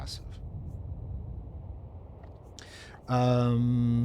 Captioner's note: air whooshing